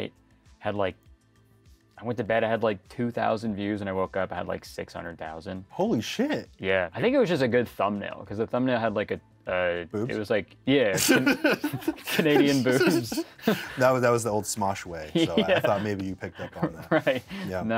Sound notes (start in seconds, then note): 10.9 both laugh